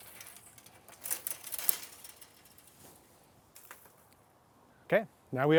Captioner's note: branches hitting fence